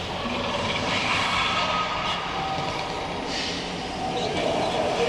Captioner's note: dinosaurs roaring